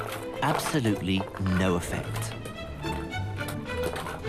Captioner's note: voiceover